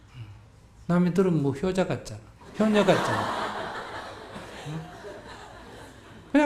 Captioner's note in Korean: 청중웃음